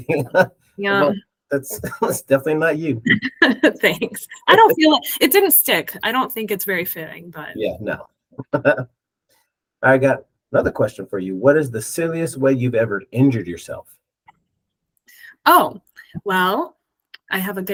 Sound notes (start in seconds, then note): 3.6 laughs